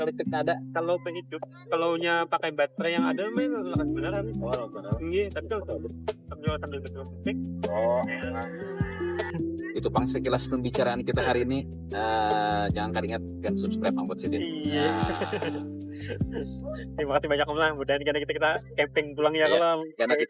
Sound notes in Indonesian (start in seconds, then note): 14.6 tertawa